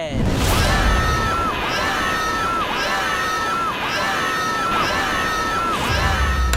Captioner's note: screaming